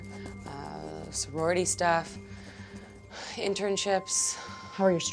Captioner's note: sighs